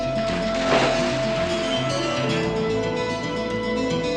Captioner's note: water splashes; dramatic music